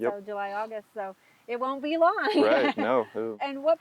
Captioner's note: laughs